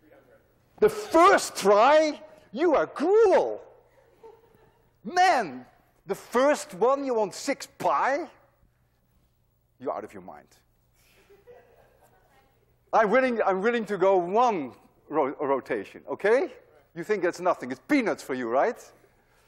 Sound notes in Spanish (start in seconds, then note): 11.2 Clase ríe